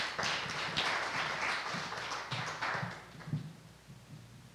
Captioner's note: applause